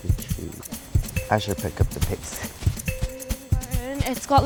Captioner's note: heart beating